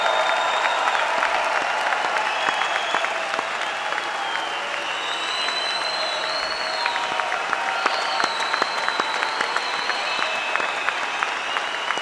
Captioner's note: applause